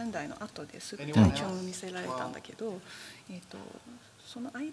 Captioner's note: speaking japanese